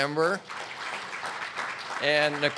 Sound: audience clapping

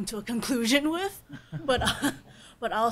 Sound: panelists laughing

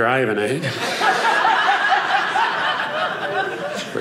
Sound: audience laughing

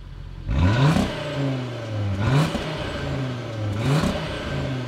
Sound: engine revving

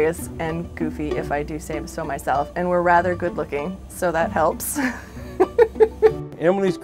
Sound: laughs

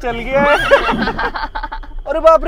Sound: laughing

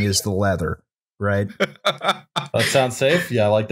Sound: laughter

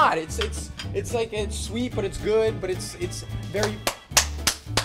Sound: slapping

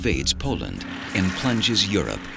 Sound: jet engine roaring

